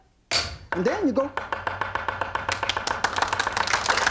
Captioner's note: knife bangs; knife banging rapidly; audience applauds